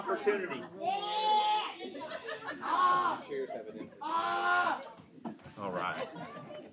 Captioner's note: shouting